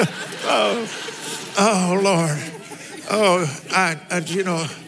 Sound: laughs

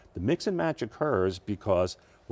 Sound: none

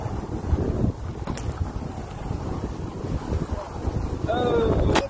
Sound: whip cracks

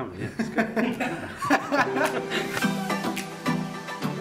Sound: laughter

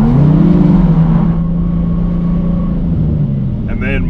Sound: car engine revving

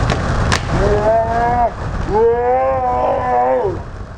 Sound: screaming

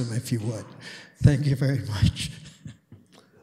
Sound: chuckles

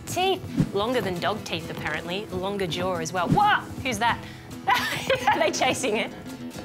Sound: laughs

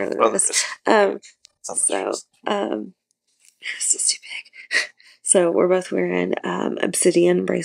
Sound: whispers

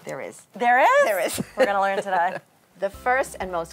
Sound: laughs

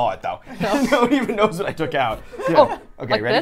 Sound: laughs

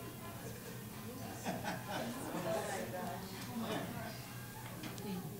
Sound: audience laughing

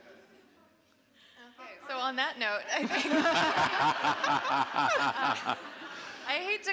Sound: people laughing

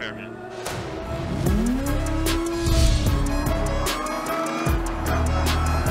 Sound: engines roar; metal bangs; tires screeching

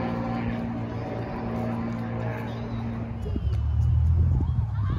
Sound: airplane noise continues

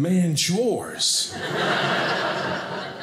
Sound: audience laughing

